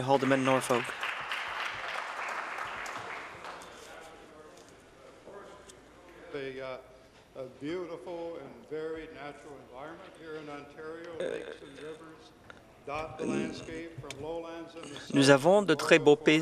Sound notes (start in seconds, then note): 4.4 some Applause